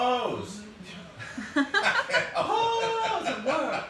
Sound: laughing

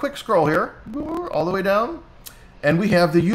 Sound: blows raspberries

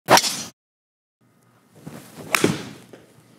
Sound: ball cracking

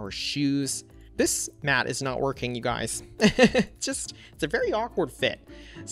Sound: laughs

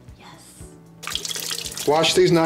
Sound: water dripping

